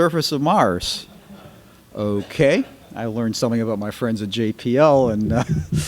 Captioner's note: laughter